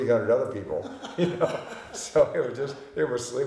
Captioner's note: laughing